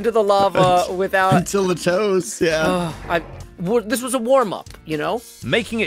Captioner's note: sighs